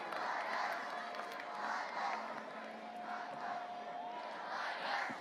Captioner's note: students chanting